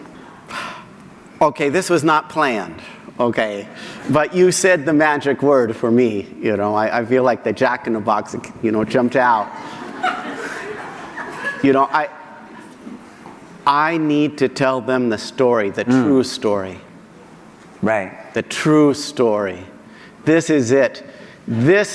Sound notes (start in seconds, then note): 9.5 laughter